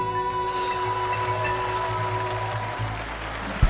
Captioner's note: audience applauding